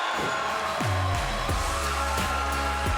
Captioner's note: bell ringing